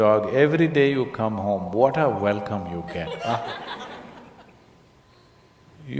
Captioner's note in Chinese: 聽眾笑聲